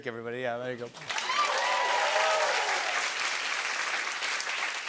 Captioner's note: cheers and applause